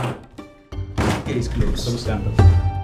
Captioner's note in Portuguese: thud